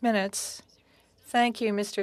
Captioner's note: speaking French